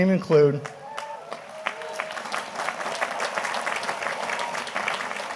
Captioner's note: audience applauding